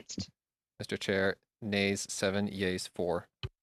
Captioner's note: speaking French